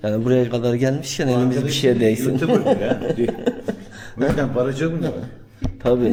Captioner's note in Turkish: kahkaha